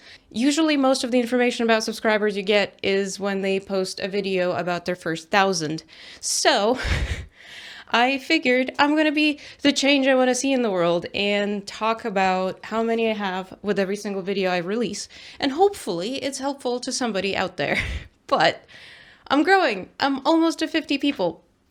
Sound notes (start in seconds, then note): 6.8 laughs